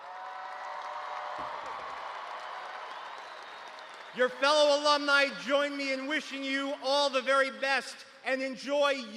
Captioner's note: cheers